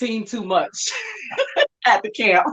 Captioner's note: laughing